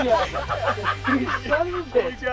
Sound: hysterical Laughter

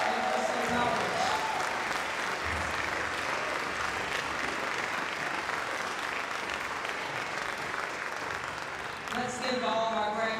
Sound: applause

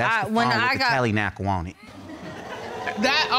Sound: audience laughing

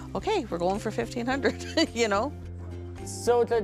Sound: laughs

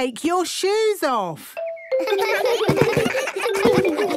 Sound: giggles

